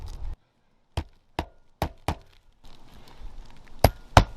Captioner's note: soft hammering